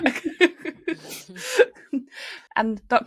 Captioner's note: laughing